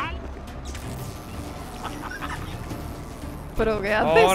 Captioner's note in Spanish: Zumbido de táseres